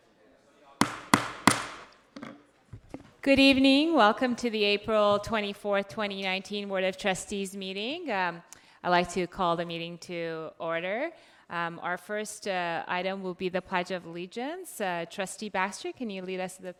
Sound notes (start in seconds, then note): 0.8 gavel thwacking